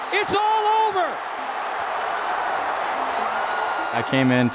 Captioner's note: cheering